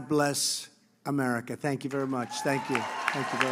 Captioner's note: applause